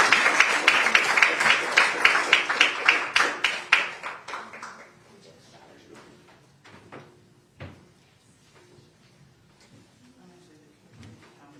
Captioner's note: applause